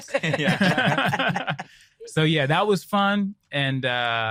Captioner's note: group laughing